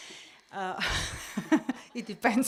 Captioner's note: laugh